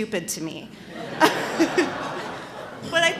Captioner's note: laughter